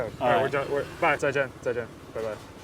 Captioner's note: Mandarin